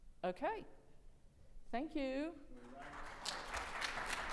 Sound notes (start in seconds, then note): 2.6 audience applauding